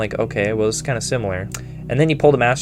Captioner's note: smackety